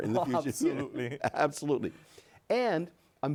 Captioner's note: laughs